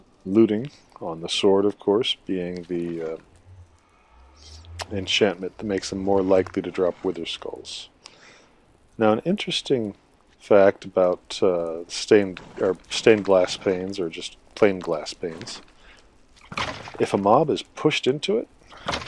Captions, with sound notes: Looting, on the sword, of course being the, uh, [sniff] enchantment that makes them more likely to drop wither skulls. Now, and interesting fact about, uh, stained... er... stained glass panes or just plain glass panes [bones rattle] If a mob is pushed into it... [bones rattle]